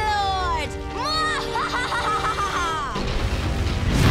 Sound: laughing

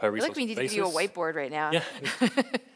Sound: laughs

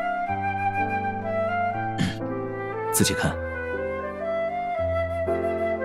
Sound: clears throat

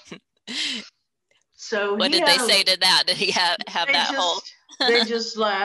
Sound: laughs

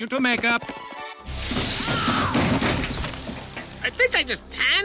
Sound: machine clangs; screams

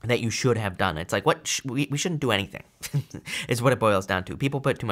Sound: laughs

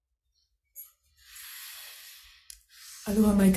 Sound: breathing deeply

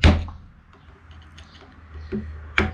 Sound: tapping sounds

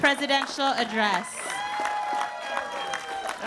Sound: cheering

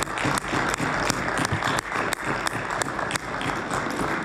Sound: applause

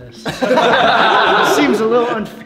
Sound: laughing

